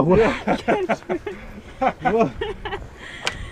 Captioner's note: laughs